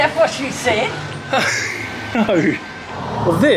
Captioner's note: laughs